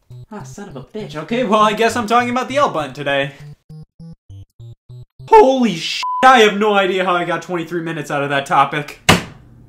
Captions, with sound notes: Ah, son of a bitch. Okay well, I guess I'm talking about the L button today. Holy (beep), I have no idea how I got 23 minutes out of that topic.